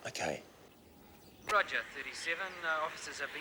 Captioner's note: police Radio